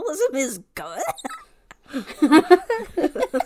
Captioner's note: laugh